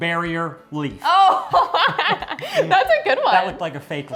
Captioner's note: laughs